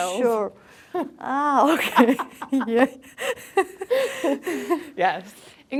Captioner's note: laughs